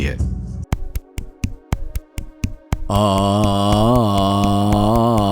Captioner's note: rhythmically claps hands and chants